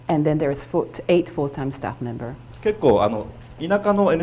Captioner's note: none